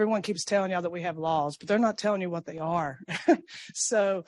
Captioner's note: laughs